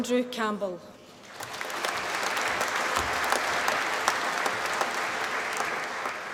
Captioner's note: applause